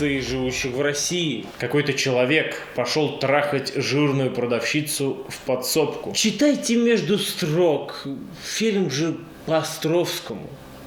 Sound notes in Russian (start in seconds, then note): 1.7 усталым голосом